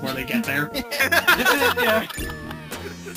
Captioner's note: everyone laughs